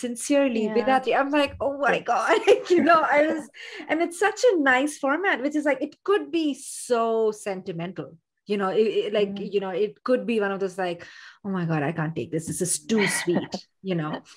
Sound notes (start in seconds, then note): 2.2 laughs